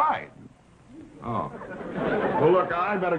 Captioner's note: audience laughing